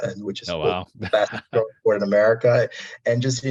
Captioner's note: audio distortion